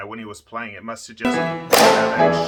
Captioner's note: violin breaking sound